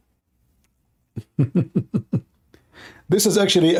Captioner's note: Ketawa